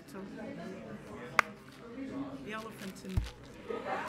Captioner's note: people chattering